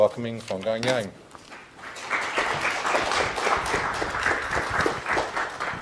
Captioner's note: audience applauds